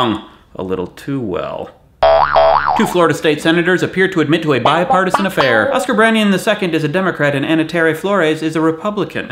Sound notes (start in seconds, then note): 2.0 boinging eyebrows